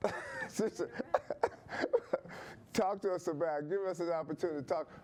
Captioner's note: laughing